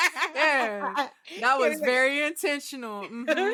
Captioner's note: laughing